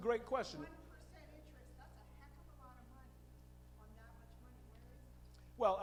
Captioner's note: female audience member speaking